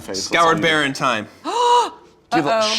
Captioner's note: gasps